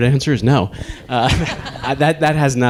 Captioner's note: laughing